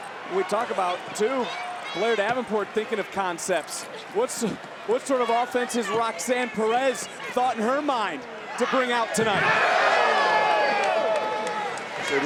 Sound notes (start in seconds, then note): 0.0 crowd chattering; 9.5 crowd yelling; 11.1 crowd cheering